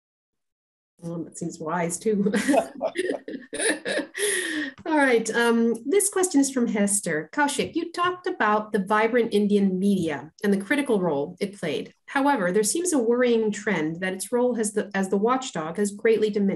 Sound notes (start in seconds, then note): 2.2 laughter